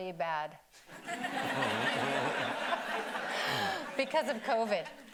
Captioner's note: audience laughing